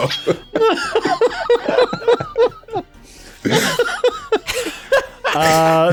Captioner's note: laughing cuz’ murder